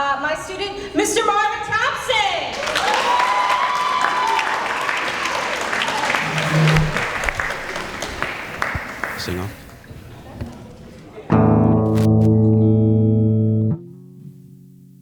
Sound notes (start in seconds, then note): 2.5 applause